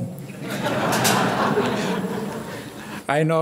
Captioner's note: audience laughing